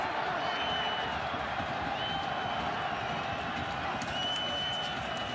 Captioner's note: crowd cheering